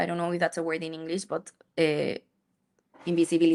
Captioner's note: speaks in Spanish